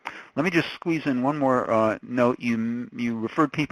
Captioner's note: voiceover